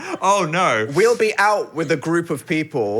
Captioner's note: laughing